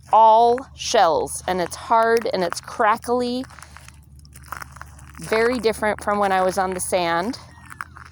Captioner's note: crackle